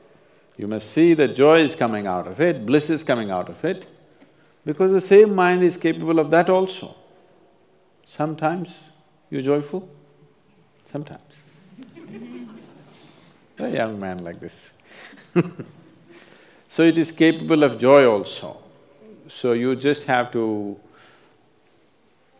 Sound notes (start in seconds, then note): 11.7 laughter; 15.6 laughs